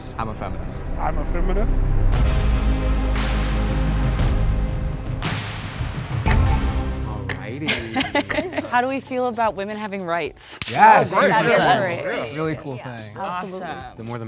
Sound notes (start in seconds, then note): 2.3 alternative rock music; 7.7 participant laughing